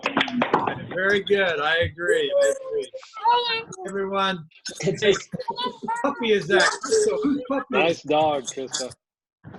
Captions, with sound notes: Very good, I agree, I agree, everyone. [crowd mumbles] Nice dog Crystal.